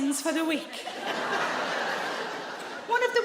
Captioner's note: audience laughs